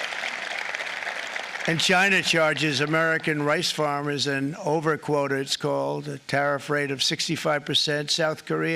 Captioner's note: applause